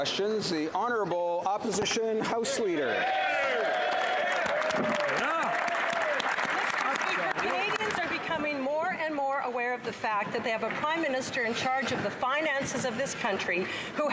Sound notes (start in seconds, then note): 0.0 applause; 3.6 speaking French; 6.9 some Applause